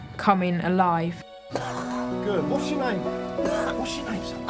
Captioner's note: coughing